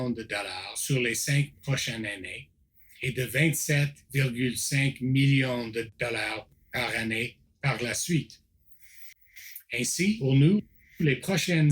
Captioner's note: repeats in French